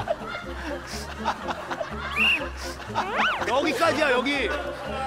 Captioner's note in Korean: 호루라기 소리